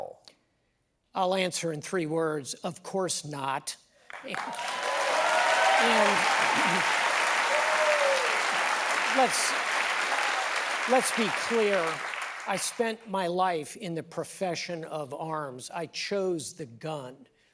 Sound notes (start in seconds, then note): 4.0 applause